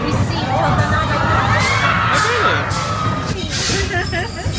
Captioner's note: riders yelling; guide laughing